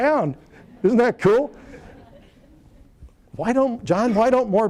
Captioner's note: laughter